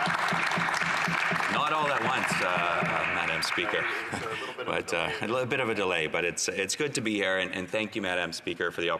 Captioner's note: applause